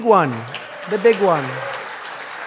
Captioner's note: applause